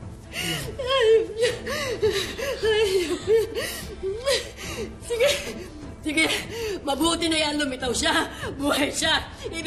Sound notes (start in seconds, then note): 3.8 sobbing